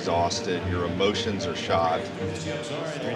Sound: auctioneer calling

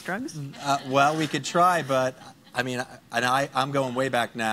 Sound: laughing

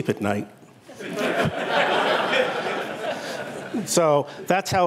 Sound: laughter

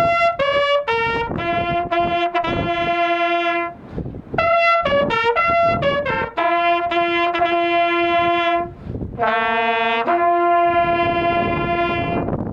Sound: wind noise

